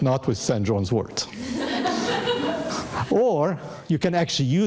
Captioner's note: audience laughing